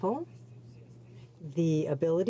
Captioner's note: speaking French